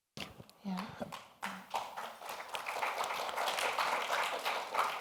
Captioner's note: audience applauding